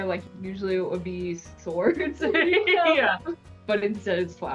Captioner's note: chuckles